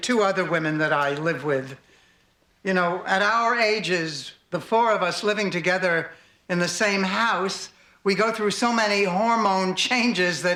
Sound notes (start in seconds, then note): none